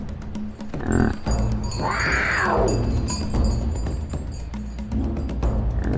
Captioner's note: the roar of a snow leopard